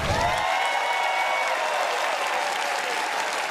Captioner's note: cheers and applause